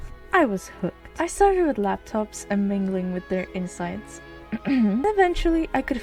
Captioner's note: cough